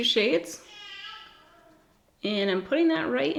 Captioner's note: baby babbling